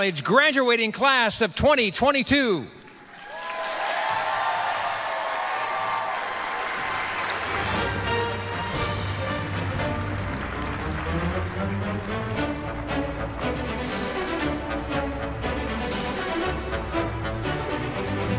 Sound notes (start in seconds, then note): 3.3 applause, cheering; 7.0 energetic orchestral music